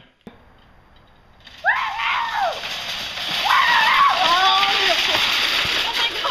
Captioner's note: Alex screams while riding on a shopping cart